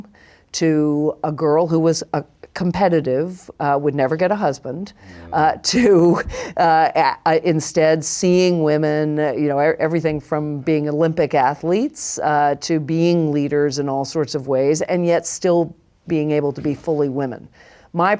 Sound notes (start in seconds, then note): 7.8 laughs